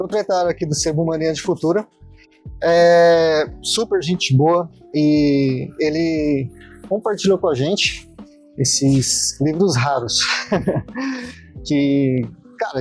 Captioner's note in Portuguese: risadas